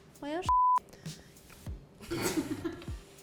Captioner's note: beep; laughing